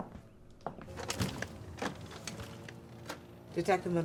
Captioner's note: footsteps; door opening